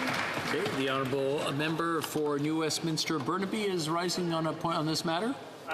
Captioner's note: applause